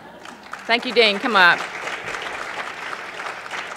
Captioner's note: applause